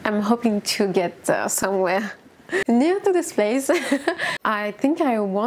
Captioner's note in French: rires